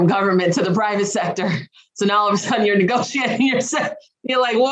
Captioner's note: laughs